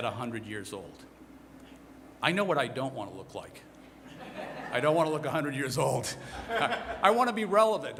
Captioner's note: laughter